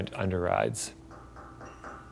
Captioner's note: knocks echoing